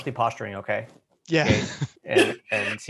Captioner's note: laughs